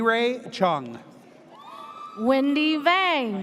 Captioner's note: audience cheers